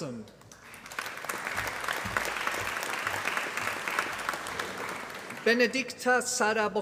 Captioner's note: applause